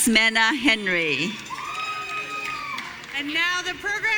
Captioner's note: audience cheering